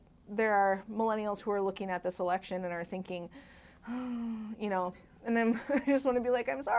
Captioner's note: exasperated sigh